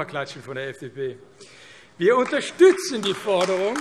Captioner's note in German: Beifall AfD